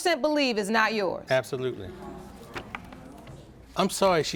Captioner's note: audience gasps